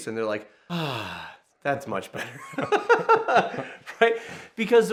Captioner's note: laughing